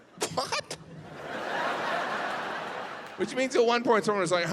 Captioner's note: audience laughs